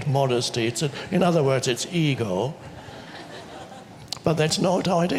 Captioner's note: audience laughs